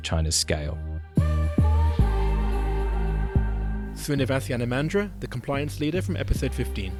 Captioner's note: voiceover